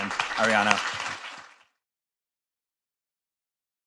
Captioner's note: applause